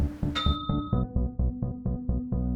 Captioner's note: ding